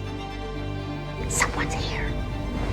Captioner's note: voiceover; whispering